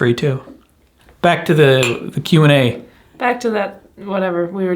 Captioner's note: clinking